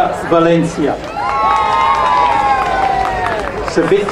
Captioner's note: crowd cheering